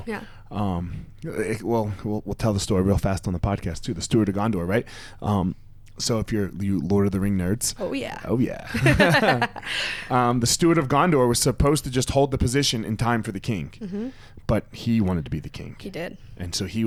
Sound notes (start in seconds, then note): 8.6 both laughs